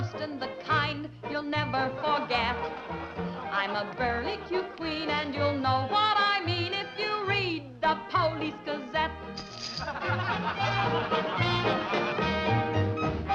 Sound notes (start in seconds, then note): 9.7 laughter